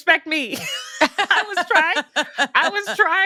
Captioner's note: laughs